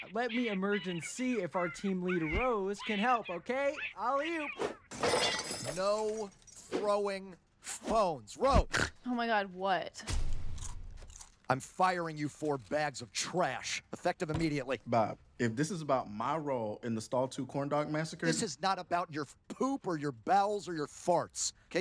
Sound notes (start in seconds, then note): 4.9 phone crashes; 10.4 crunch of chips